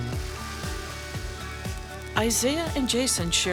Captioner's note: coffee beans tinkling